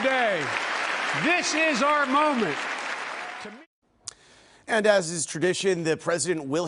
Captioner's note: applause